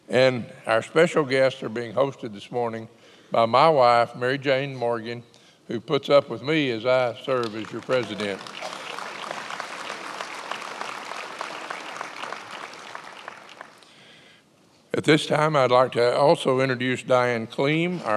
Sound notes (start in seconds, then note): 7.4 attendees applauding